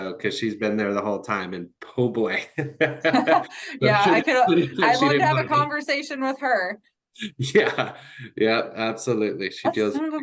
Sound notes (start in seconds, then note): 1.9 chuckles